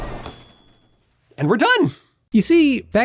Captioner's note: ding